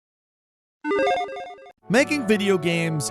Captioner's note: electronic beeps